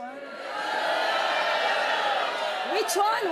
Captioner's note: audience shouting